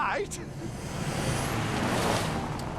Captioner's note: engine roaring